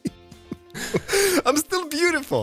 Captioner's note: chuckling